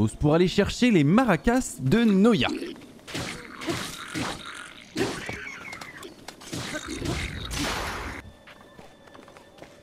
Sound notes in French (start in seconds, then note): 3.2 grognements du Bokoblin; 4.9 cri du Bokoblin qui meurt; 6.5 grognements du Bokoblin